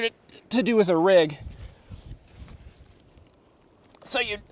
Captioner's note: straining